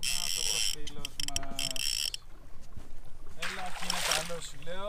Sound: fishing reel-spinning spool sounds

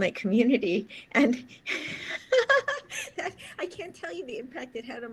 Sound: laughs

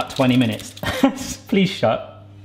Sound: laughing

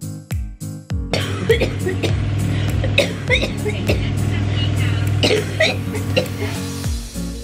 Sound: coughing

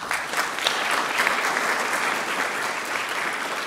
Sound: clapping

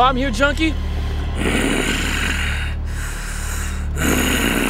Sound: Julio growls

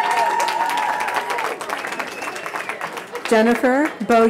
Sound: cheering

